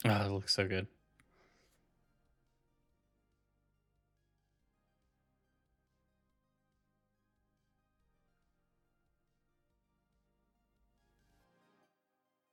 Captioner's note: silence